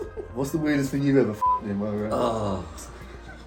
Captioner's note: both laughing; beep